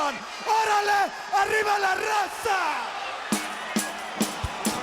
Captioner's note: speaking Spanish